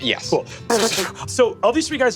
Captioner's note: mimics gunshots